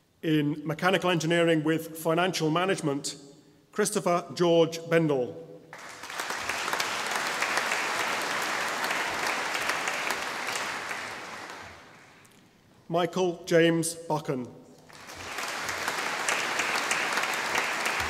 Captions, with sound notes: In Mechanical Engineering with Financial Management Christopher George Bendall (audience applauding) Michael James Buchan (audience applauding)